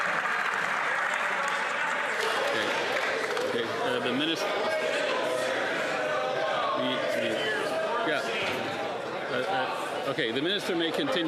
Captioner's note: cheers & Applause